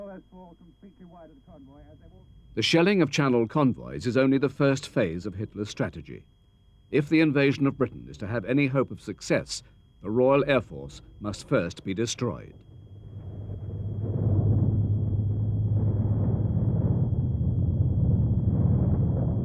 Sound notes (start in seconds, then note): 14.9 plane engines rumbling